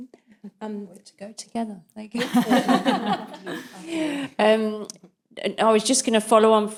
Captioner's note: panellists laughing